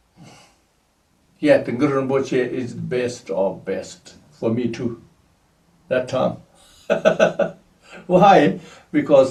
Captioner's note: laughs